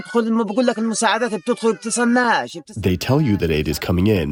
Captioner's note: through translator